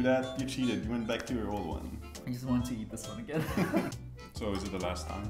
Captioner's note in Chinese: 狡猾一笑